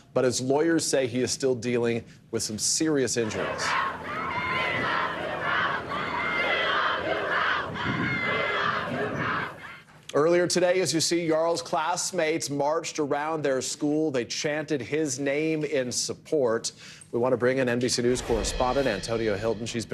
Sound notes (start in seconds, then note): 8.8 crowd chanting